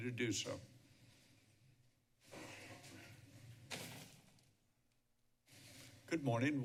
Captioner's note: silence